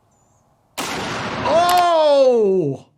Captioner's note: gunshot cracks